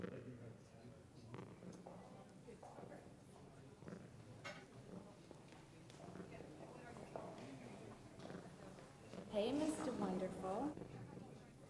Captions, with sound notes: (people chattering) - Hey, Mr. Wonderful.